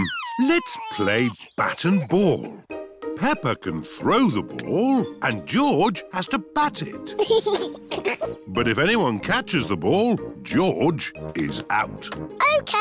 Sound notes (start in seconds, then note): 7.1 chuckles